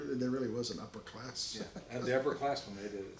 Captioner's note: chuckles